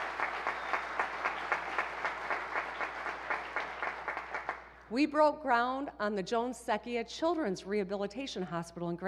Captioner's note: applause